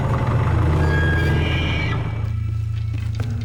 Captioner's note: ominous music; screeching; ominous music